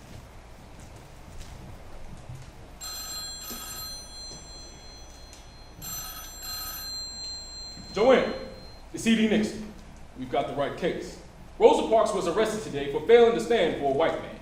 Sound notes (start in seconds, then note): 2.8 phone ringing